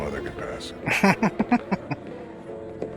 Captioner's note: chuckling